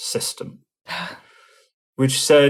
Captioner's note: chuckling